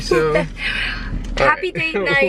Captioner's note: chuckling